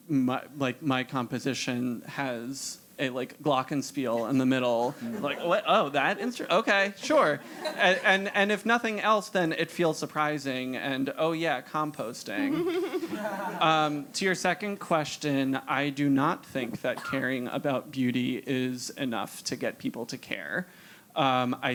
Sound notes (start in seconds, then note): 4.0 laugh; 12.3 laugh